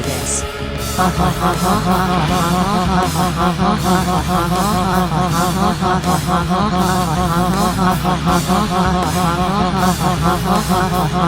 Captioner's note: laughs